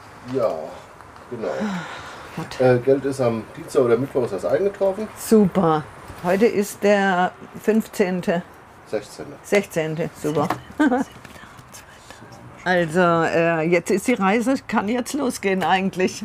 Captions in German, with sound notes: Ja ... genau. - (seufzt:) Gut. Geld ist am Dienstag oder Mittwoch eingetroffen. Super. Heute ist der 15. - 16. 16. Super. (Lachen) (flüstert:) 16.7. ... Also, die Reise kann jetzt losgehen eigentlich.